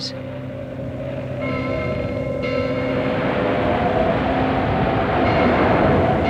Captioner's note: waves crash, wind whips, bells are rung